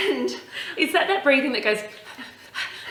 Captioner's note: puffs quickly